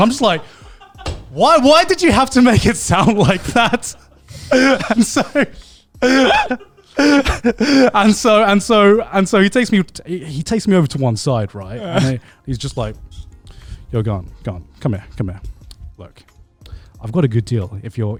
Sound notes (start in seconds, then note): 3.5 all laughing